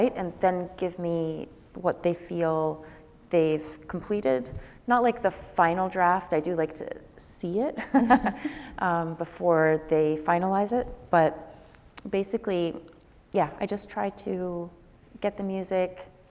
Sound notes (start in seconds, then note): 8.6 laughs